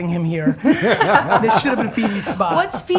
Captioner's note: all laughing